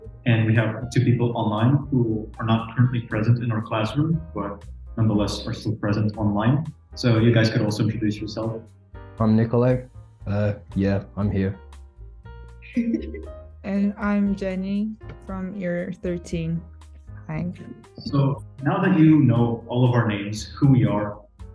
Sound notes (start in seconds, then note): 12.7 giggles